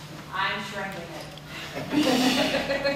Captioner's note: laughing